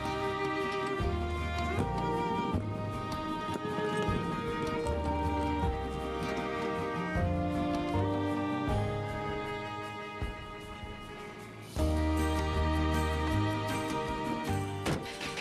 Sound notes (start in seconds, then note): 0.2 birds chirping; 5.6 suitcase wheels rolling